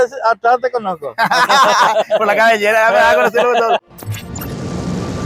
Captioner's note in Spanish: risas